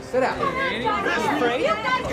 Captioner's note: group shouting